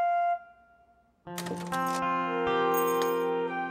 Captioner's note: door closes